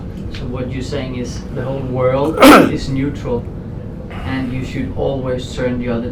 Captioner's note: clears throat